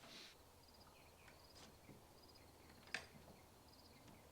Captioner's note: crickets chirp